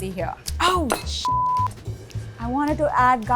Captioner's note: beeps